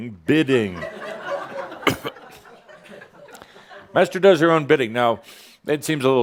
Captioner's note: more chuckles